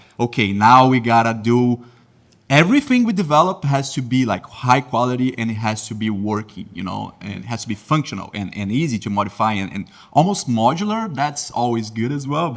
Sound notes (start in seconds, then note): none